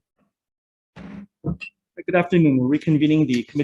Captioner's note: gavel strikes